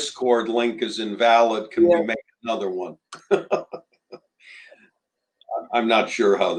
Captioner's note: laughter